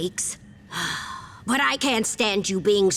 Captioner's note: sighing